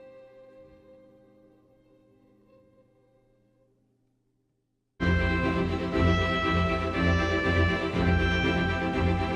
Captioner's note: applause